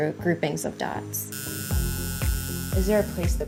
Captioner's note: tattoo needle buzzing